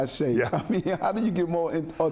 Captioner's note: chuckling